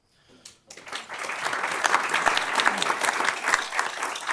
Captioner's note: applause